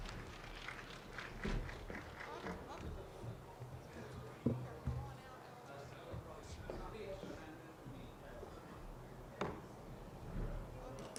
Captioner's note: applause